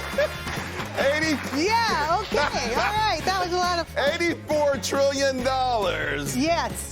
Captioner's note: laughter